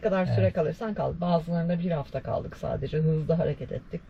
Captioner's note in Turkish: boğazını temizler